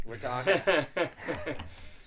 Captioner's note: laughs